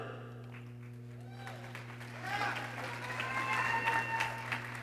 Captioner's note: people cheering